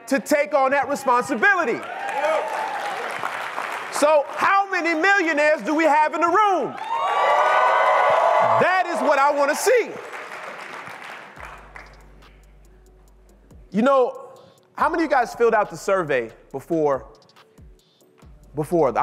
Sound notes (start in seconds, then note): 0.7 audience cheering; 6.7 audience applauding